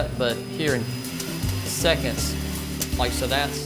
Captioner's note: beans cracking